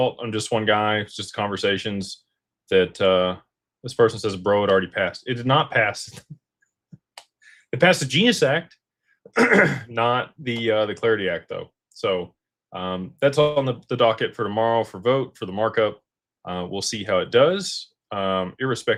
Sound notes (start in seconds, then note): 9.3 clears throat and cough